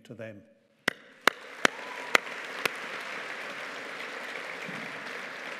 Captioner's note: audience applauding